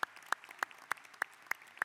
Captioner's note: applause